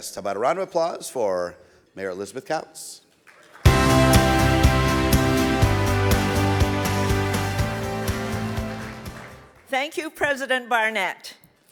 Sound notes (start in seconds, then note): 3.3 audience applauds; 3.6 bright music